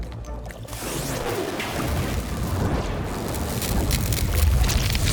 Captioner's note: steady crackling